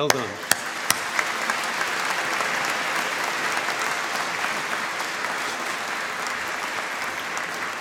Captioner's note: applause